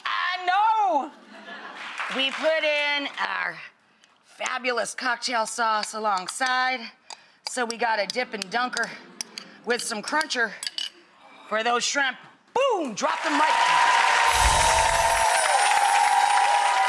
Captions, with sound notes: I know. We put in our fabulous cocktail sauce alongside so we got a dip and dunker with some cruncher for those shrimp. Boom, drop the mic. (applause)